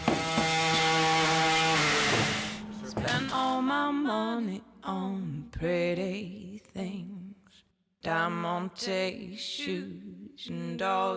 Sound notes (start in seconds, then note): 1.6 motor whirs